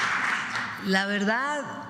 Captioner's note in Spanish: aplausos